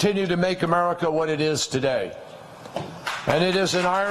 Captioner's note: applause